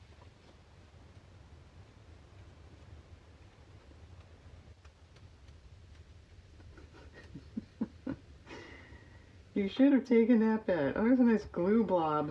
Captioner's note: laughs